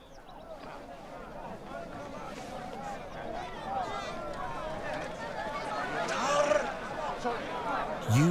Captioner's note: speaking italian